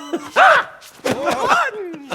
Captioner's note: high-pitched screams